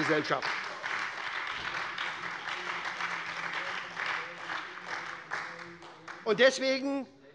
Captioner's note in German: Beifall bei der SPD